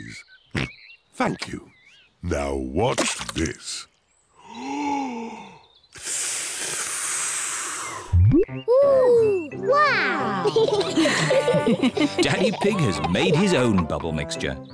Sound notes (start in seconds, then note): 0.2 oinks; 4.1 takes big breath and blows; 10.3 all laugh